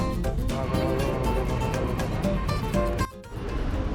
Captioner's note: train Incoming